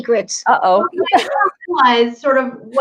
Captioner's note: laughs